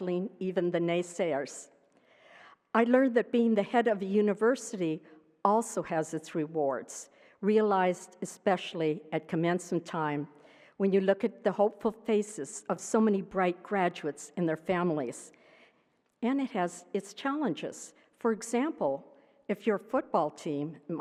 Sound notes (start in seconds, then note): none